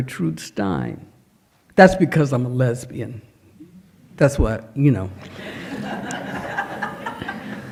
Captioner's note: laughter